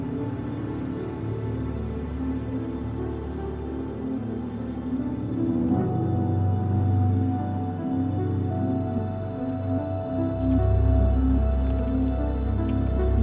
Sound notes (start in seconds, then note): none